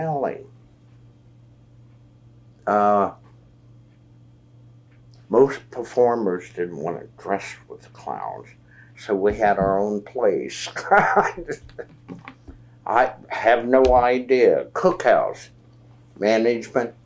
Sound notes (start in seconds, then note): 10.7 laughs